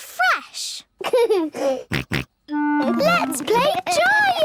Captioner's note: giggles, snorts